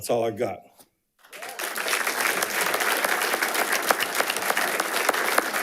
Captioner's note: attendees applauding